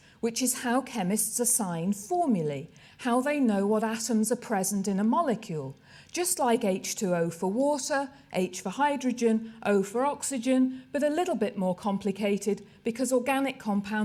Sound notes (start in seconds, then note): none